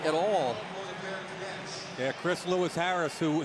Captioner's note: pa announcement